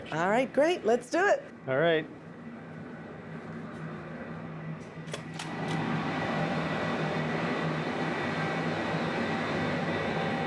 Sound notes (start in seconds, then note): 5.3 machines roaring